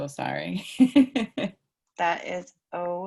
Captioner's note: laughter